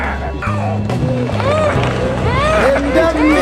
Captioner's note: child screams